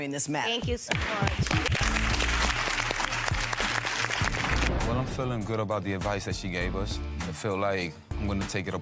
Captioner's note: audience applauds